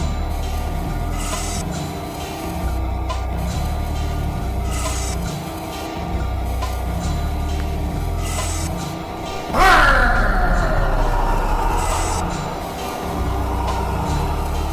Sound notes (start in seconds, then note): 9.0 growling